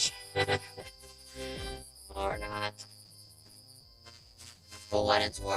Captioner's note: chuckles